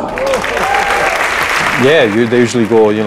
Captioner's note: applause